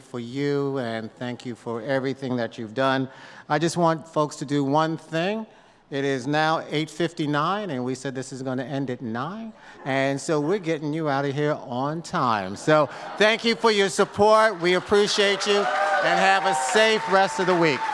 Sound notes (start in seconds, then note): 13.5 audience claps